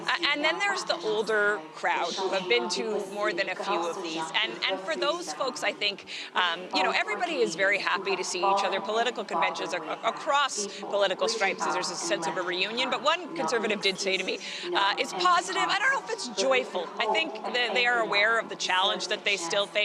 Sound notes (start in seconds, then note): none